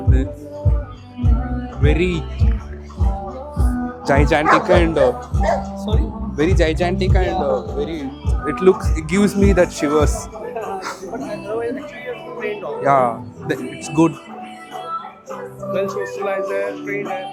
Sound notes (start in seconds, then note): 10.7 shivers